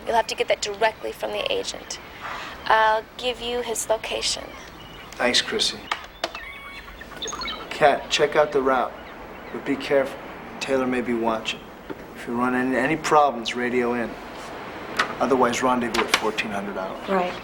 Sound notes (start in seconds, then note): 5.8 monitor beeps